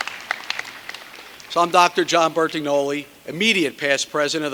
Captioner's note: cheers and applause